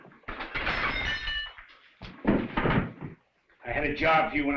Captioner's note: glass shattering